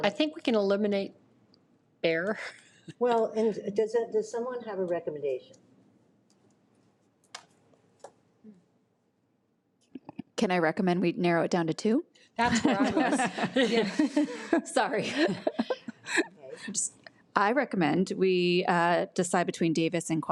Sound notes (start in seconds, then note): 12.5 trustees laughs